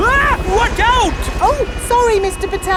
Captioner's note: screams